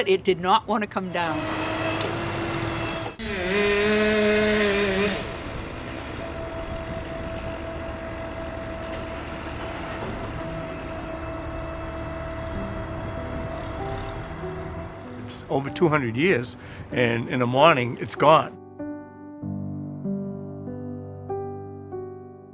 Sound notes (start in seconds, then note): 1.6 whirring; 3.5 motorized sawing; 9.0 whirring; 12.8 somber piano music; 19.2 somber piano music